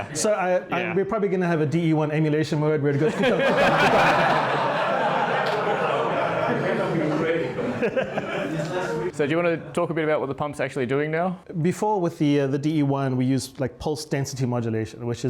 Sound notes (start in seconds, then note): 4.8 laughing